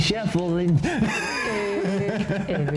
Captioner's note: laughs; sings